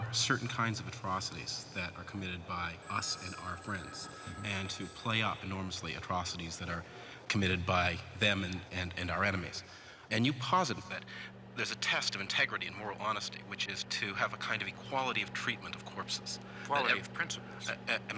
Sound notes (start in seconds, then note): 3.6 telephone ringing